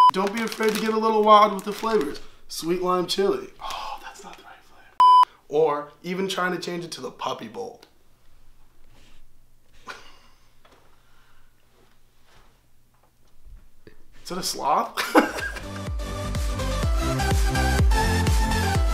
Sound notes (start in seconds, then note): 5.0 beeping; 15.0 laughs; 15.4 bright music